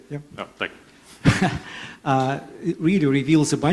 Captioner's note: laughs